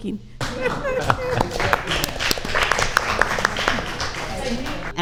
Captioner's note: audience applauds